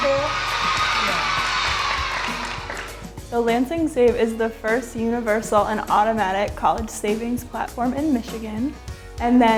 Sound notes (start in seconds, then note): 3.1 clapping